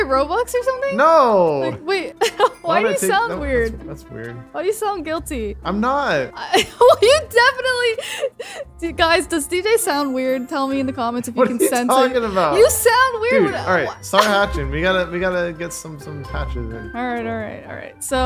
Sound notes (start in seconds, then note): 2.2 chuckles; 6.5 laughing